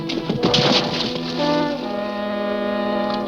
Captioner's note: splashing